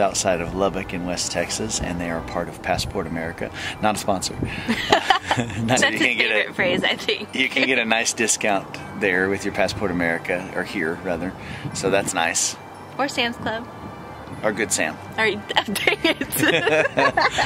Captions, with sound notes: outside of Lubbock in West Texas and they are a part of Passport America - not a sponsor (both laugh) That's his favorite phrase, I think. So you can get a... You can get a nice discount there with your Passport America or here, rather so that's nice. or Sam's Club or Good Sam or...uh...dang it! (both laugh) I don't think they give you a discount for Sam's Club.